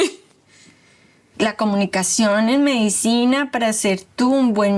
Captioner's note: speaking Spanish